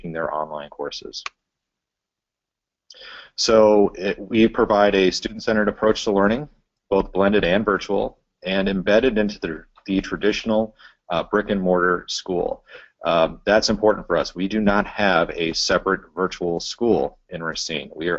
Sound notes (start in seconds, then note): 2.9 pause